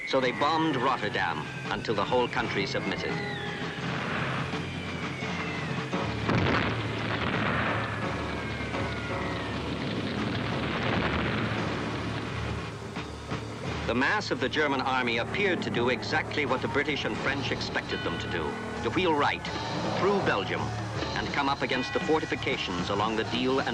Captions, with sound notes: so they bombed Rotterdam until the whole country submitted. (bombs whistling) (bombs blasting) (fire roaring) The mass of the German Army appeared to do exactly what the British and French expected them to do. To wheel right, through Belgium, and come up against the fortifications along the Dijle